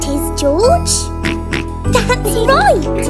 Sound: snorting

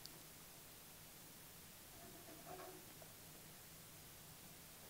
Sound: hand lightly scraping on block

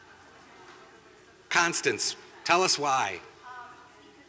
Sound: answering

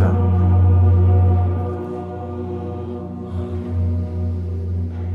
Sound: pipes resonating

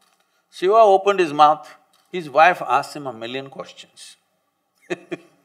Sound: laughs

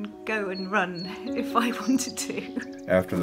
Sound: birds chirping

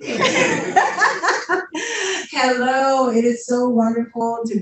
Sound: laughs

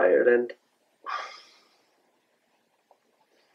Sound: dad takes deep breath out

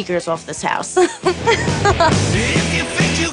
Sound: laughs; upbeat rock music

